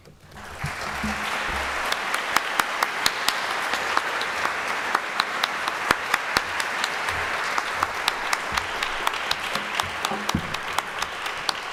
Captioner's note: applause